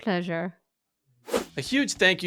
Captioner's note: swoop sound